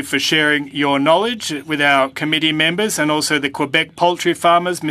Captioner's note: speaking French